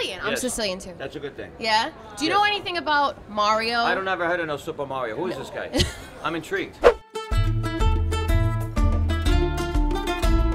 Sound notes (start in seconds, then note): 5.7 laughing; 6.8 italian music